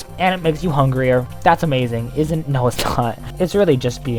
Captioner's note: laughs